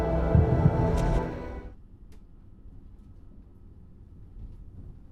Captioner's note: music stops